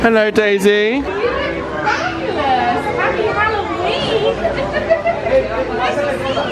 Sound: giggling

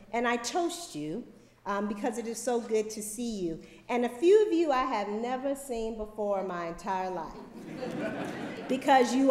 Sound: laughter

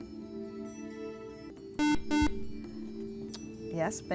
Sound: buzzer

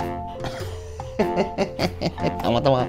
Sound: laughs

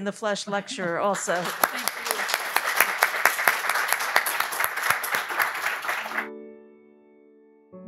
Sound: audience applauding; relaxing music

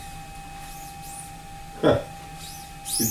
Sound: whistling sound

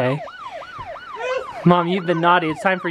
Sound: sirens

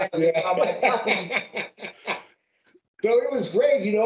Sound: laughing

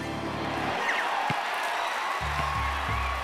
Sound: cheers and applause

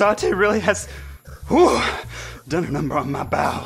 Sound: hooooo

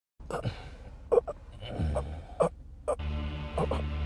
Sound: man gasping

